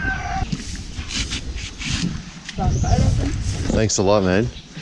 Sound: knife cutting

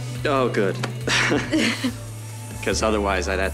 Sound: both chuckle

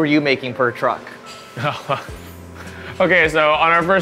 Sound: laughs

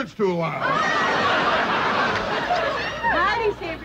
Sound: laughter

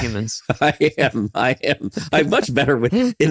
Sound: chuckling

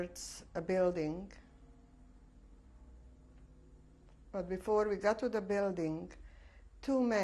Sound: pauses for 3 seconds

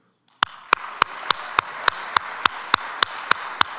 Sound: audience applauds

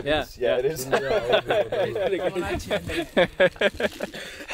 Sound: all laughing

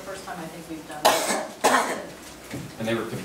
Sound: cough

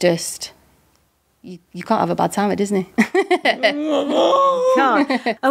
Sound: laughs

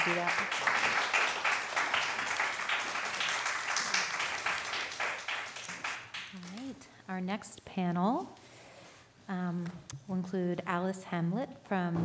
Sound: applause

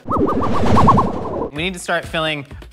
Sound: sci-fi whizzing

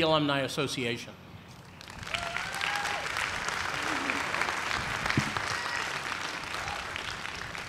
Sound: cheers and applause

